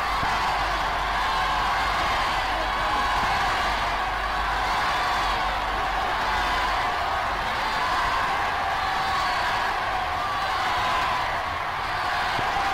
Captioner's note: cheers